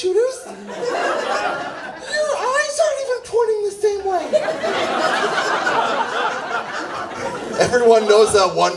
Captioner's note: laughs